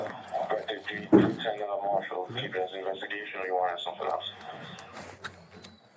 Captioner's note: radio chatter